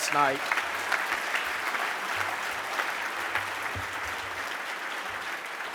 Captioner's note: applause